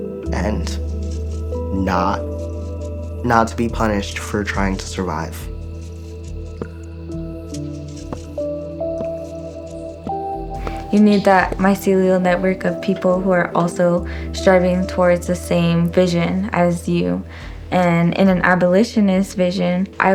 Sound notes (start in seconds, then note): 6.7 water drops